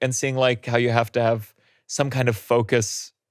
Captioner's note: none